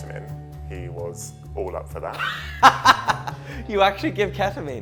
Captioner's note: laughing